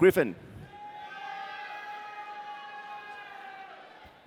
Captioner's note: audience cheering